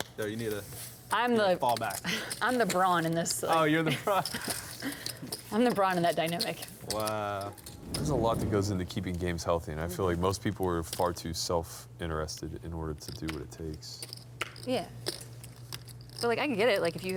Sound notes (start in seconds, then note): 5.0 laughs